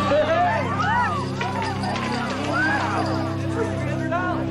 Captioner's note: chips clattering